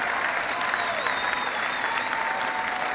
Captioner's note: cheering